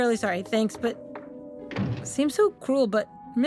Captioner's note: SFX shutting the door